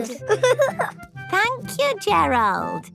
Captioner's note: giggling